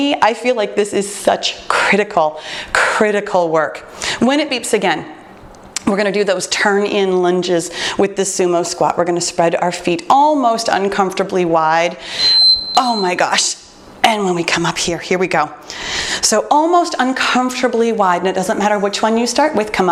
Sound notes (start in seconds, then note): 12.1 beeping